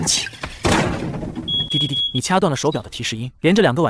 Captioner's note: beep beep beep